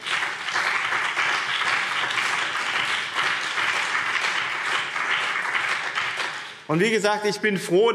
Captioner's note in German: Beifall BÜNDNIS 90/DIE GRÜNEN und CDU